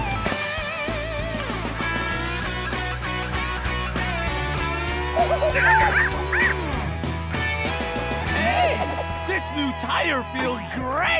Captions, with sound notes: [monkey noises] Hey, this new tire feels great!